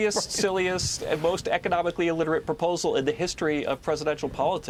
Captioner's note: laughter